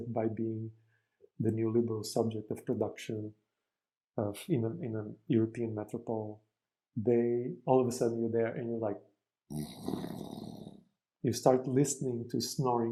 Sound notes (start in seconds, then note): 9.5 sound of snoring